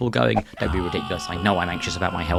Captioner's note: man screams